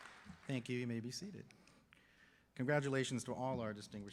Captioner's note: cheers and applause